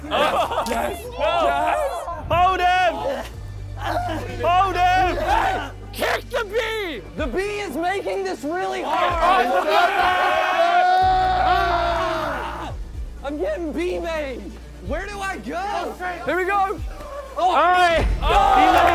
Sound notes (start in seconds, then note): 1.9 contestants laughing; 3.9 struggled grunting; 8.7 contestants cheering; 11.7 yelling; 18.2 contestants clapping